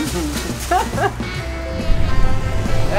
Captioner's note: laughing